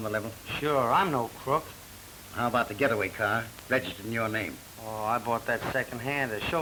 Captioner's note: none